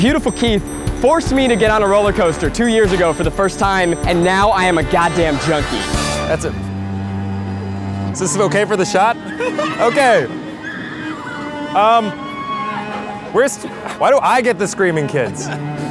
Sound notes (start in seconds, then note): 8.2 kids screaming; 15.2 Keith laughs